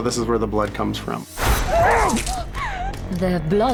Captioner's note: gunshot; sobbing